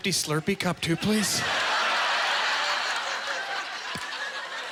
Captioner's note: audience laughter